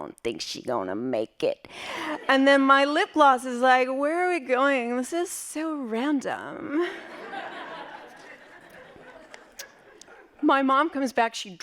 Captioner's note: laughing